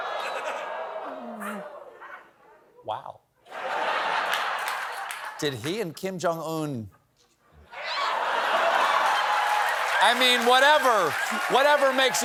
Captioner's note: laughter